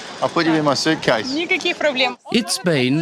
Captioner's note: speaks ukrainian